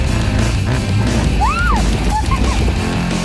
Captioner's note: cheers & claps